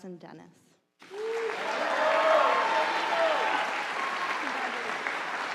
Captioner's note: audience cheering